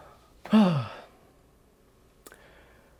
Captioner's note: sigh